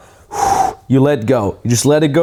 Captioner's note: exhales